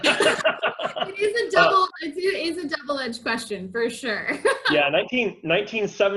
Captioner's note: laughs; laughs